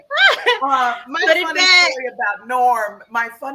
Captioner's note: laughs